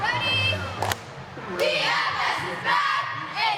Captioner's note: single clap